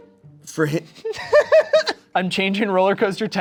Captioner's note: laughing